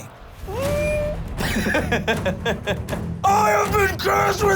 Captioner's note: laughs